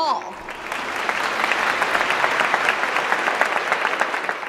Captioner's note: applause